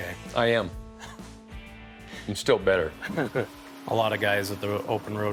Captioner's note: chuckles